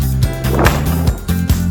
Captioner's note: boom